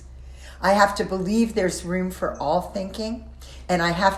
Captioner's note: none